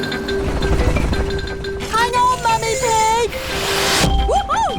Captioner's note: beeping